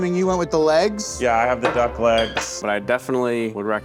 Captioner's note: bottle clinking